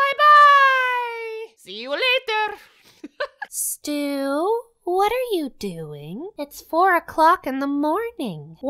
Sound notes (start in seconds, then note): 2.8 laughs